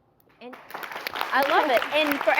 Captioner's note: crowd Claps